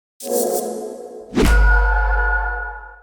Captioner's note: chiming